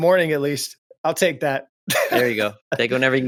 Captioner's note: laughs